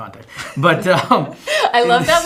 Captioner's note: giggling